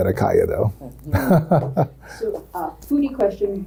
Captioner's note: chuckles